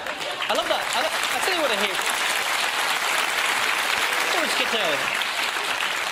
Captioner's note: drowned out by clapping